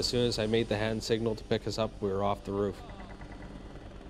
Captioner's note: voiceover